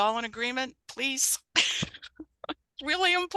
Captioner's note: laughing